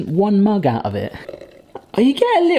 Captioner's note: tea dripping